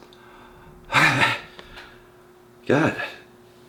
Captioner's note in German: seufzt